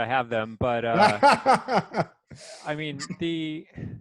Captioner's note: laughing